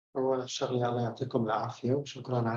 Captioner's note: speaking arabic